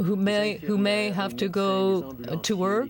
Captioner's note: speaking French